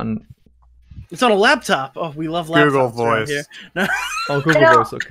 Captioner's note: laughs